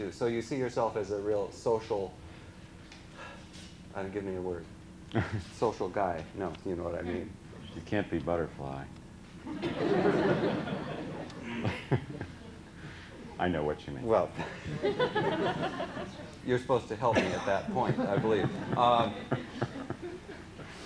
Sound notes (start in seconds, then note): 2.9 sighs; 9.4 laughter; 14.3 laughter